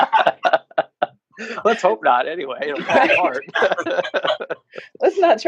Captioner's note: laughs; laughs